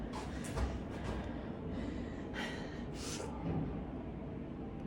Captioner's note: breathes deeply